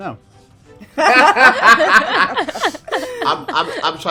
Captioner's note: students laughing